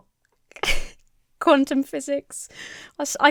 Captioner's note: chuckles